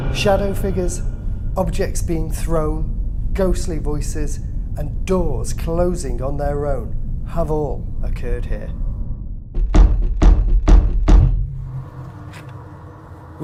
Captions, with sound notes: Shadow figures, objects being thrown, ghostly voices, and doors closing on their own have all occurred here. (door slamming)